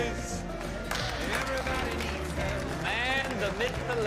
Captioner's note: clapping